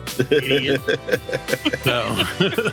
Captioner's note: laughing